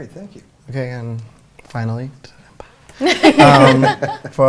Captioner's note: laughter